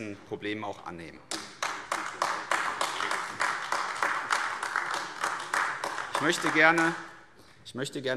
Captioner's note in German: Beifall AfD